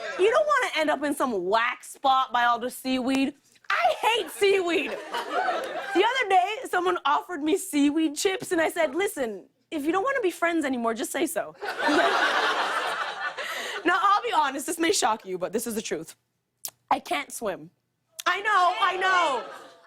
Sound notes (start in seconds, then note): 11.6 laughter